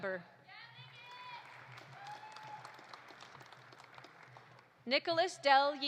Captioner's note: audience applauding; audience cheering